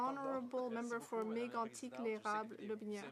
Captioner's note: speaking French